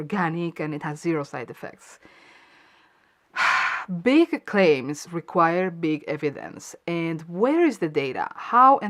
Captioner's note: sigh